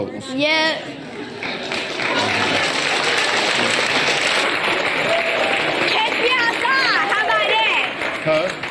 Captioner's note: audience applause